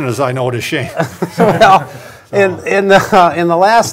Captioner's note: group laughing